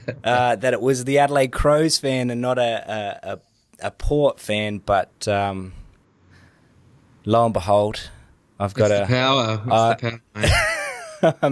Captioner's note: laughs